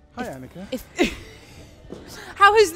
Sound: laughs

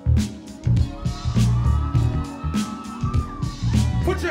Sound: audience cheering

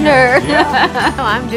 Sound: laughs

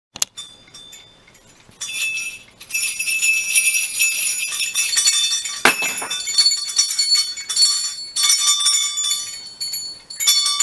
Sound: jangle of bells ringing

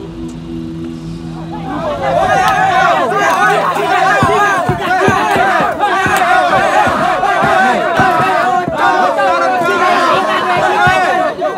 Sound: people shouting

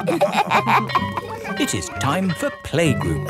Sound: all laughing; school bell ringing

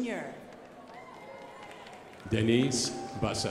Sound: crowd applauding

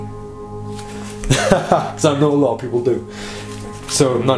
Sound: laughs loudly

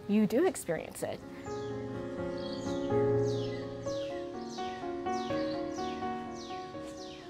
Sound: soft piano music; birds chirping

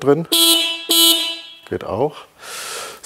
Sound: horn

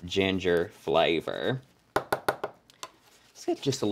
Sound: tap tap tap

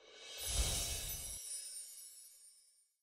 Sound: bells chiming

